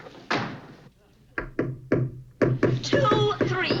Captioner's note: hammering